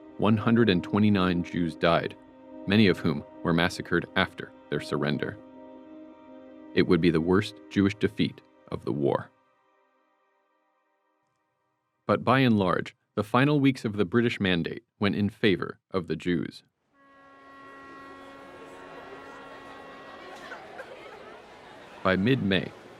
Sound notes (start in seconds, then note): 16.9 ship blows horn, crowd rustles; 18.8 woman crying